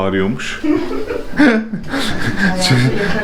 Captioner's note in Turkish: Gülüşmeler